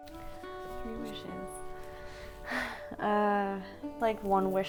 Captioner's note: sighs